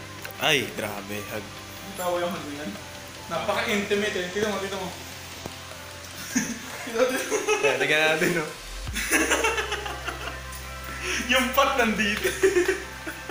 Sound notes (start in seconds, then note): 12.0 laughs